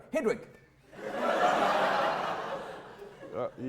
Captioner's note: audience laughter